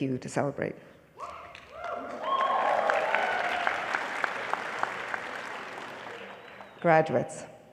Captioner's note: applause